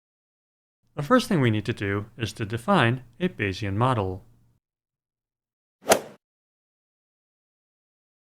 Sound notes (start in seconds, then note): 5.9 swoosh